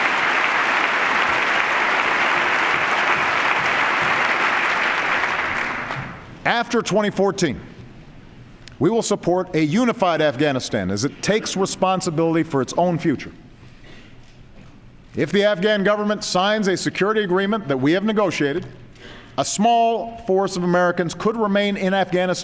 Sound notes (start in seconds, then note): 6.6 applause